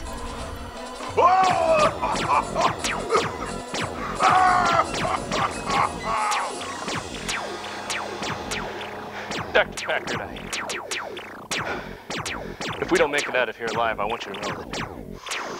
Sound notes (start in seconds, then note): 1.0 continued maniacal laughing; 3.9 coughing; 4.2 continued maniacal laughing